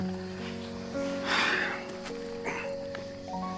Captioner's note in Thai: เสียงถอนหายใจ